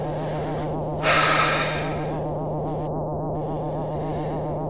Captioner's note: Alan exhales